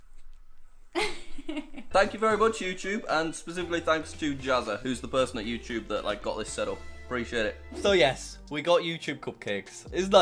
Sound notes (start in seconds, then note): 0.9 laughs